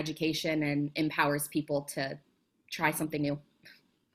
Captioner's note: audio distortion